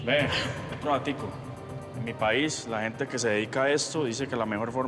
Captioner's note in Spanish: ella carraspea